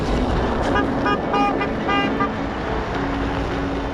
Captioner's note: honking; encouraging music